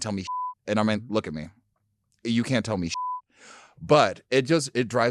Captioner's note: beep; beep